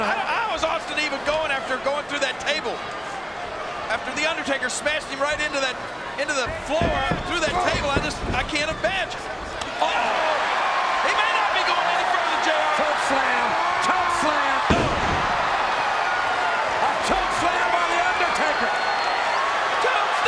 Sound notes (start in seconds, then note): 13.6 Austin thudding; 16.5 crowd cheering